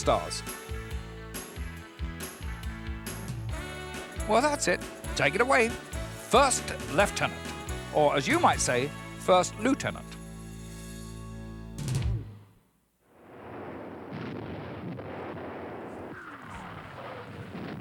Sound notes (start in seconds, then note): 0.3 upbeat music continues; 13.3 missiles blasting